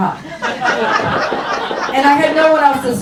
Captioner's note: burst of laughter